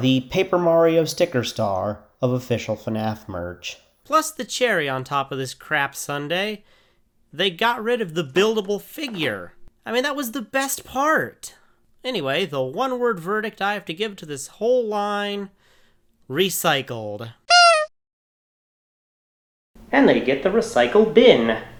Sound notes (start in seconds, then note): 17.5 honk